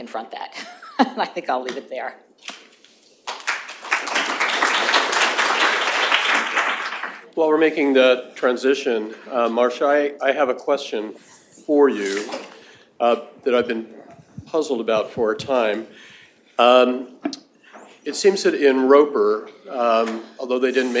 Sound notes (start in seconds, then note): 3.2 audience claps